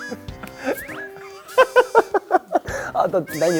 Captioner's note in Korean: 까르르